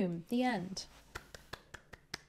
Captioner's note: claps